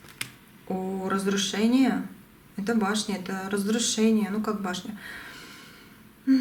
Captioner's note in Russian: вздыхает